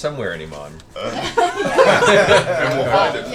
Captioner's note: laughter